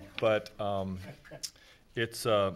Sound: chuckling

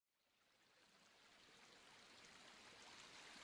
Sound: nature sounds

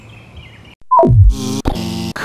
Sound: beep; buzz

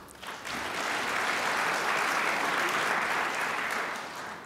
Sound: crowd applauds

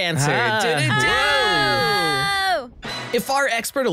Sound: cheers

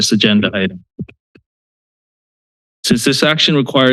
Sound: pause

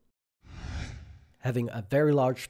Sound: screen whooshes

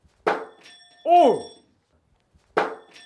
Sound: bouncing

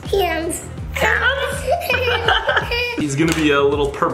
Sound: laughing loudly

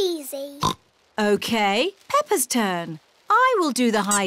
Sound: oinks

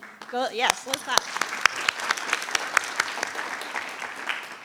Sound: people applauding

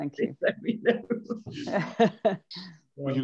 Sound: laughs

